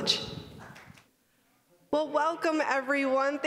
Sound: applause

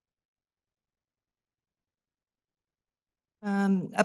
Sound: silence

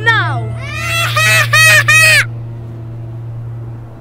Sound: laughs

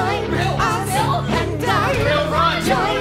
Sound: yelling; background Yelling

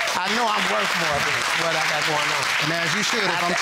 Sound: audience applauding

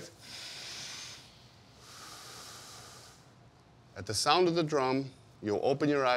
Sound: all inhale and exhale

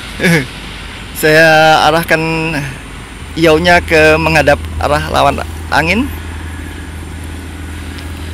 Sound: gigle

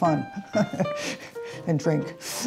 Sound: laughing

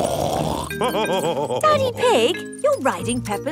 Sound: snorts and laughs

